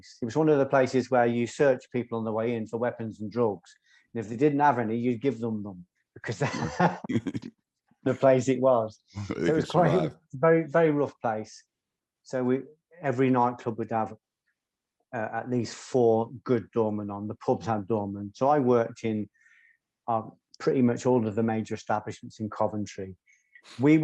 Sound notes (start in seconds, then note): 6.4 laughing in chorus